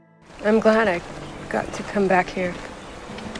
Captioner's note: voiceover